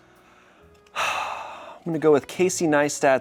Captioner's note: sighs